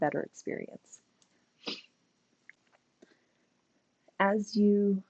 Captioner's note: silence